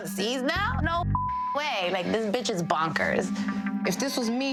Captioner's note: beeps